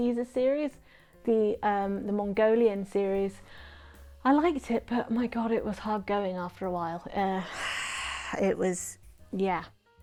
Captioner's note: sighs in what can I say on the internet about the contents of this book